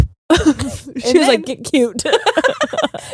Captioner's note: blowing air